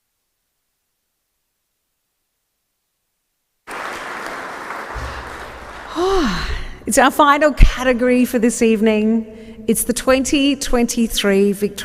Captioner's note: applause